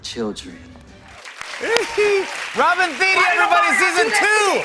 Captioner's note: cheers and applause